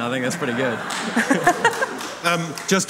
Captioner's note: audience laughing; laughing